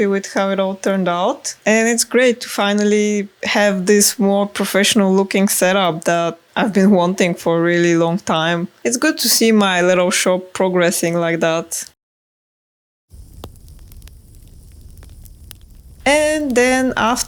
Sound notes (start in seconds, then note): 13.1 fire crackling